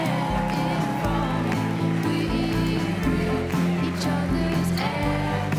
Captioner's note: crowd cheering and applauding